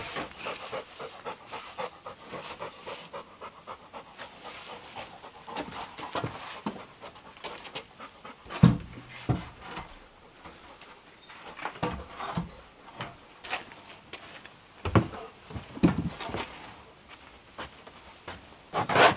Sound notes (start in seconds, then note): 0.6 dog panting